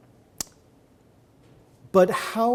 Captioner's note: none